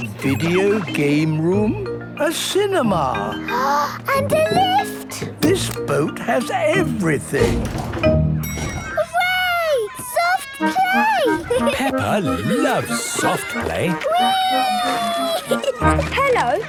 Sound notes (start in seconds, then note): 4.1 gasps; 8.4 dinging; 15.2 giggling